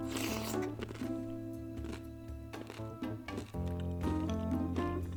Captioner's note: inquisitive chewing